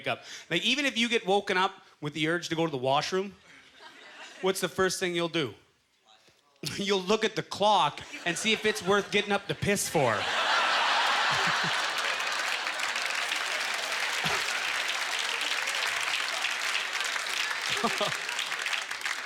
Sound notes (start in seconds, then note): 9.7 audience laughter; 10.2 applause